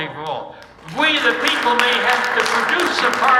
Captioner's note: audience applauding